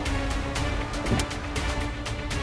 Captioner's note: car door opens